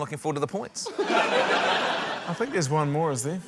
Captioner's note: laughter